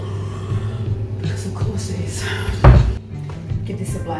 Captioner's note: massive sigh